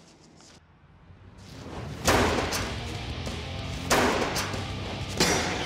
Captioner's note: clanging